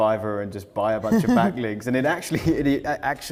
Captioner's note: Neil laughs